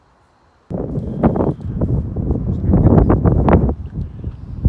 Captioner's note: wind noise